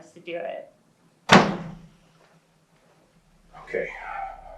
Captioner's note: door slams